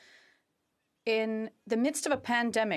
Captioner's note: speaking French